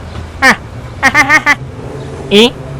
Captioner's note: laugh